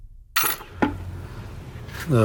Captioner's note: keys dropping into box